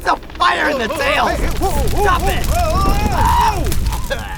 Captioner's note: men screaming